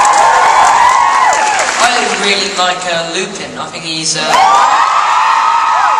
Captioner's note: audience cheers